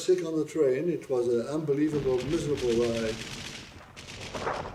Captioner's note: anti-aircraft fire